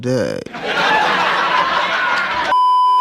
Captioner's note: sticom_laugh.mp3